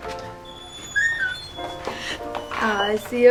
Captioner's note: door clicks